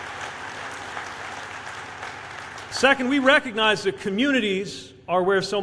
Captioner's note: applause